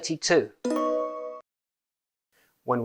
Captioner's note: correct sound